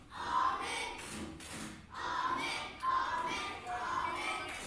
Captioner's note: kids chanting